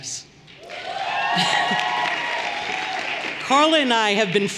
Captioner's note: everyone cheering and applauding